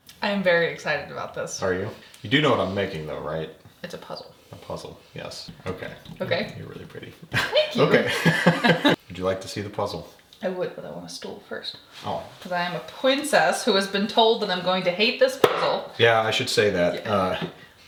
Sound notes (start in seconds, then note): 7.3 both laughing